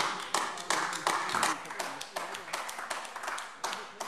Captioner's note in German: Beifall AfD